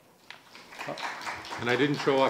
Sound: audience applauding

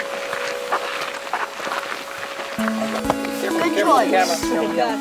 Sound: feet crunching on gravel

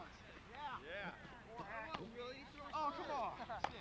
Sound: chatter; chatter continues

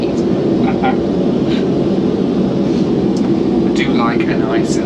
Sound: host laughs

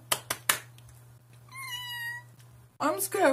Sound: excited squeak

